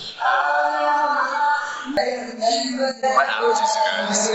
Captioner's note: Jeffree sniffing